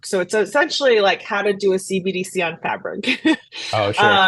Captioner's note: laughs